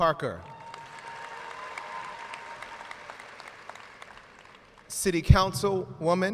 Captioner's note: audience cheers and applauds